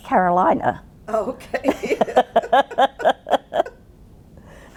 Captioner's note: both laughing